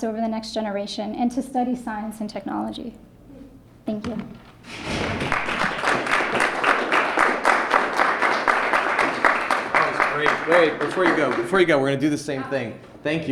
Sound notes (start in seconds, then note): 4.8 applause